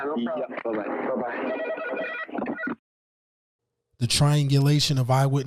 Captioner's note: phone rings